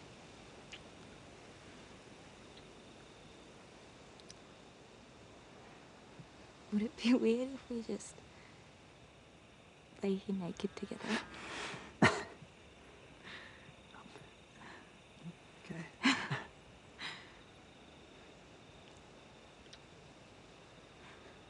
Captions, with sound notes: - Would it be weird if we just laid here naked together? (laughter) - Okay. (laughter)